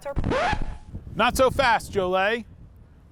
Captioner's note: screen scratches